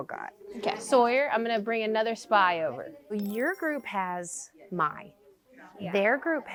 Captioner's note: chime